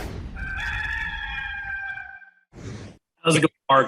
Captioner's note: rooster crowing